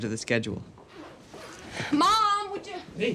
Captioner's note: zipper rasping